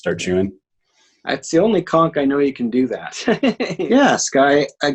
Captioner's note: laughs